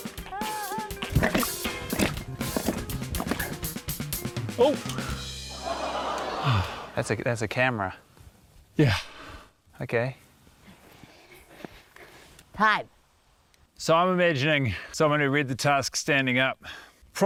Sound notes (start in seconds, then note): 4.6 sighs; 5.3 audience exclaims